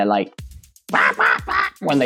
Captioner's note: robotic clucking sound